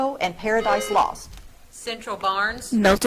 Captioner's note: buzzer trills